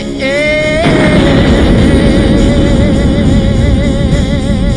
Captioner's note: rocket booms